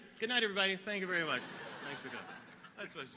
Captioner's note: audience laughing